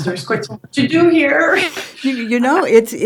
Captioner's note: laughs